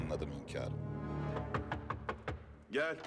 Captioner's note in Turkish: Kapı vurma sesi